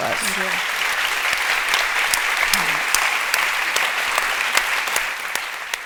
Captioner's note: applause